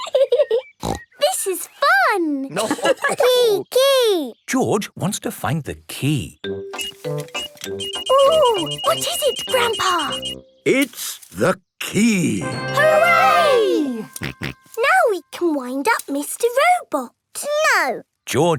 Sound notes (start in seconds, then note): 2.4 giggling and snorting; 2.8 laughter; 6.7 beeping; 14.2 snorting